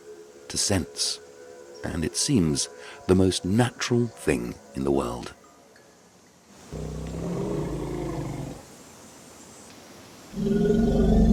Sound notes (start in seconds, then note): 6.7 elephant grumbling